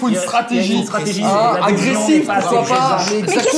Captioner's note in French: Brouhaha